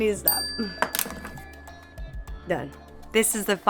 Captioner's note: bell dinging